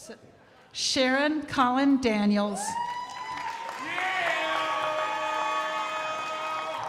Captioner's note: crowd applauding